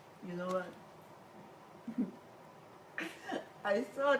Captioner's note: laughs